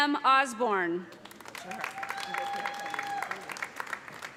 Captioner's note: applause